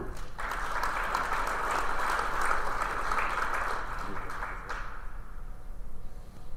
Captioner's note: applause